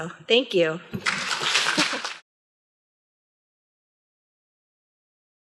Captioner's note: applause